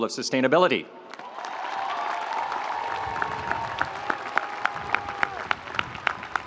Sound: audience applauding; audience cheering

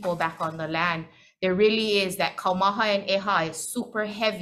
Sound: speaking foreign language

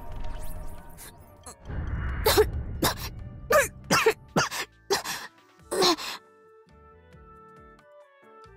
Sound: coughs; coughs coughs

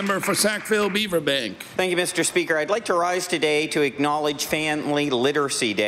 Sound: applause

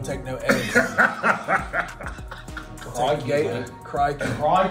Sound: laugh

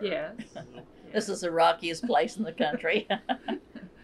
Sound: laughs

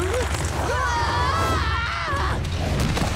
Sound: screaming

